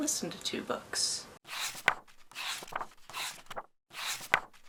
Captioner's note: pages turning